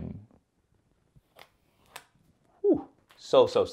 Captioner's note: plastic pops